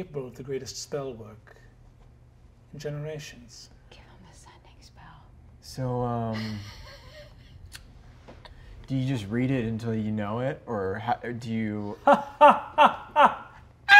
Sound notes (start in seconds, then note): 4.6 whispering; 12.0 laughing